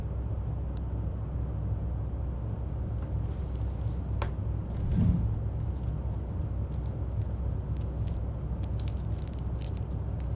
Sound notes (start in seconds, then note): 5.5 cords rustling